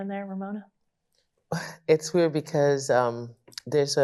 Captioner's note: exhales